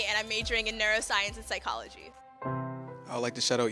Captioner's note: none